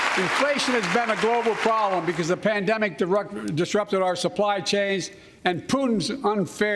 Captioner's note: cheers and applause